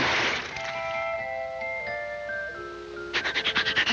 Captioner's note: diving board springing; water splashing; Woody sniffing